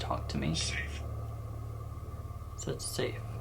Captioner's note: disembodied voice